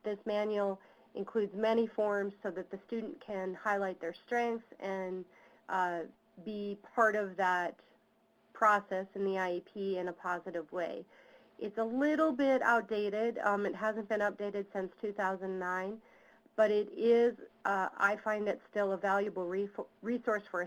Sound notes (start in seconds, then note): none